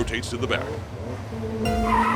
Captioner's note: DCR cars peel out